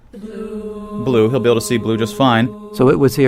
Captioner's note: recorded Voiceover